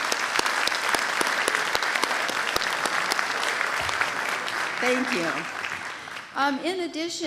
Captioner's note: applause